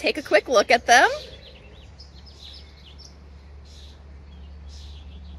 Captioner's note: birds chirping